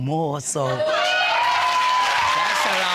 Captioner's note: audience cheering